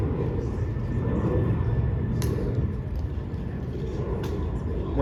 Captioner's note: clicks feet and rifling